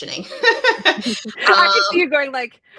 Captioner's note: both laughing